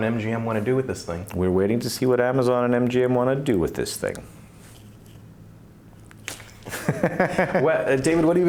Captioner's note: laughs